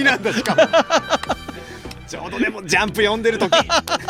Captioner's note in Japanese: 笑い